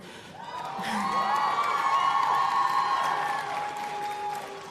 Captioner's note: applause